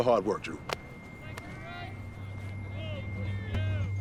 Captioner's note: players shouting; quietly tense electronic music